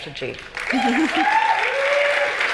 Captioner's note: cheering and applause